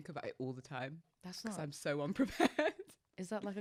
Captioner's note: laughs